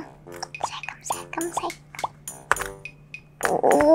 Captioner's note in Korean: 살금살금